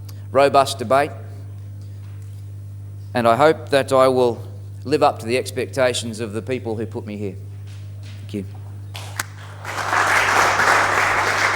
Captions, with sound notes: robust debate, and I hope that I will live up to the expectations of the people who put me here. Thank you. [Applause.]